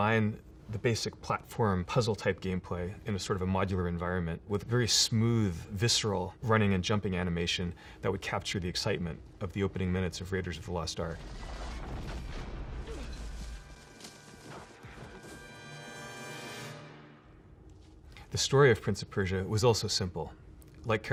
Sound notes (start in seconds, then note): 11.3 dramatic orchestral music; 11.3 man grunting